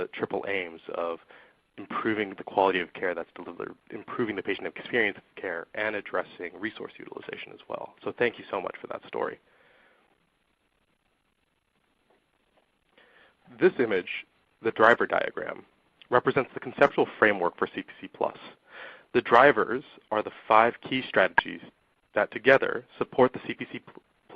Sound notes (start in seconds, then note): 9.3 silence